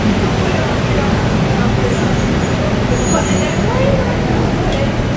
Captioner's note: soft screeching sounds